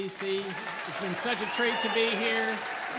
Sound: audience cheering

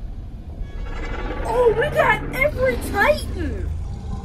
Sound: all growl

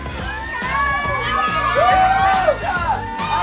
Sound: everyone screams

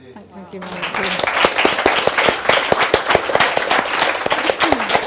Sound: resounding audience applauding

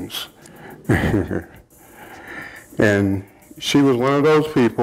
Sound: chuckling softly

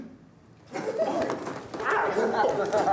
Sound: students laughing

